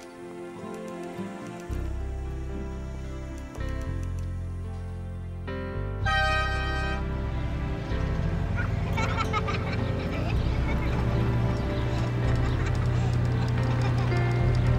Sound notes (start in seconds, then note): 6.0 train whistle blowing; 8.4 kids laughing